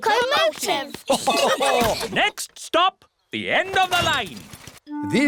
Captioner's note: laughter